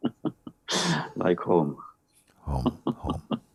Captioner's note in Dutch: lacht